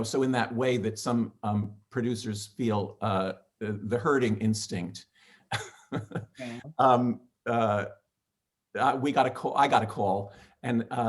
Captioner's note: laughing